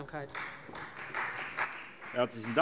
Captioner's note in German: Beifall Freie Demokraten